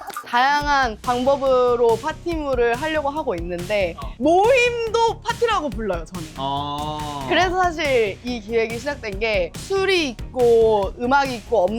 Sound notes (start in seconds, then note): 6.4 ohhh